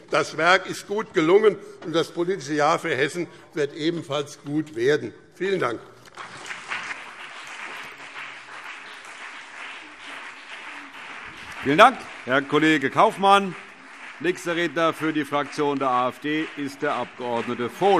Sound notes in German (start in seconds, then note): 5.9 Beifall BÜNDNIS 90/DIE GRÜNEN und CDU